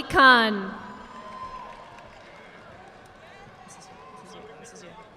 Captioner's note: audience applauding